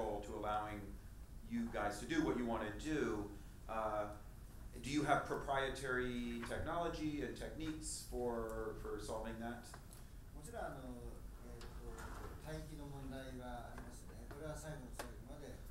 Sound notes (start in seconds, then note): 10.4 speaking in foreign language